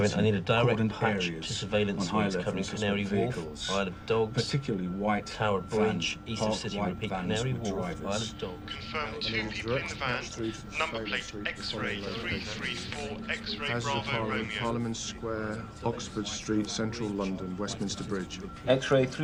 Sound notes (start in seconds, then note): 9.1 man over phone